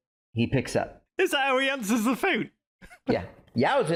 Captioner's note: chuckles